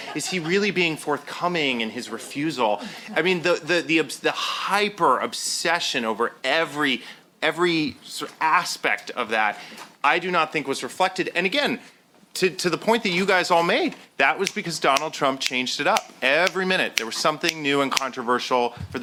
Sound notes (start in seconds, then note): 14.4 snapping fingers